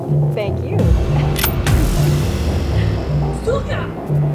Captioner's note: gun clicks; Milana speaks Russian